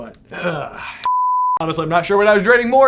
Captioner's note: please stand by beep